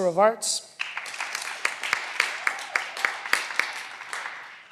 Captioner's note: cheering